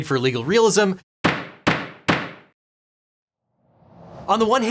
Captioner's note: gavel bangs